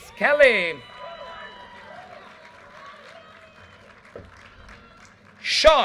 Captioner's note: audience cheers and applause